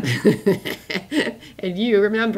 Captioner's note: laughs